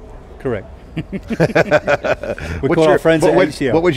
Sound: laughter

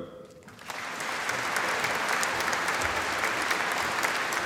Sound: audience applauding

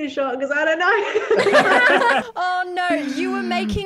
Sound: all laugh

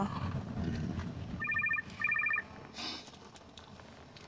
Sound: phone ringing

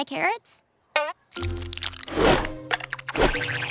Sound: drooling

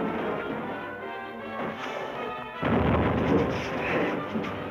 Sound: rocket exploding

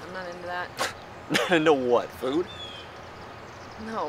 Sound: chuckles

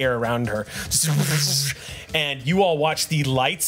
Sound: buzzing roaring noises

